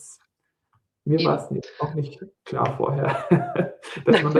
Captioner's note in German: gelächter